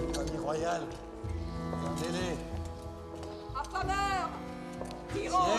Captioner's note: rioters shouting in French